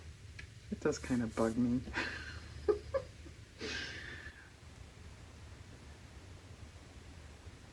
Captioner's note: laughs